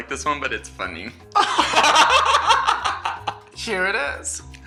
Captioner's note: laughs